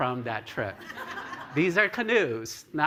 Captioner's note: laughter